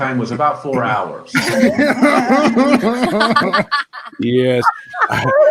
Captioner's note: participants laughing